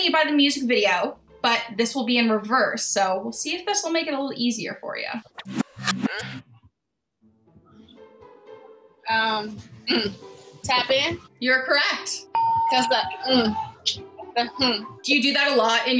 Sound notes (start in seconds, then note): 5.0 reversed audio; 12.4 ding